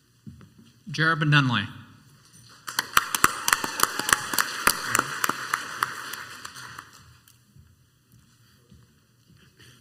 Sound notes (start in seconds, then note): 2.6 crowd applauds